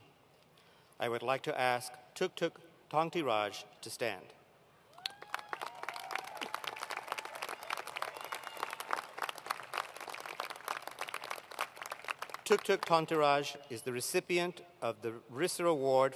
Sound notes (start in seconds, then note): 5.0 applause; 8.8 cheers